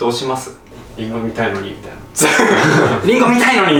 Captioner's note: laughs